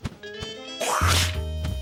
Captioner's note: spits